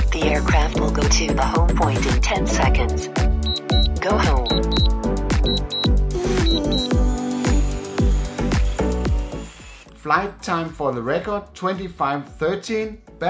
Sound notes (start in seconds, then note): 3.3 drone beeps repeatedly; 7.4 drone buzzes